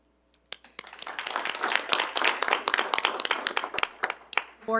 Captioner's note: attendees applauding